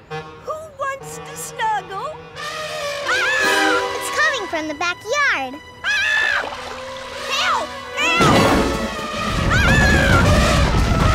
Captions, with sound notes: Who wants to snuggle? [screaming] It's coming from the backyard! [screaming] Help, help, ahhh!